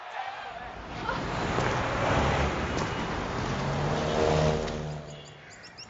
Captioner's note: laughing; car engines rumble; tropical birds call